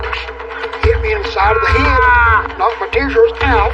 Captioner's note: shoutsn papa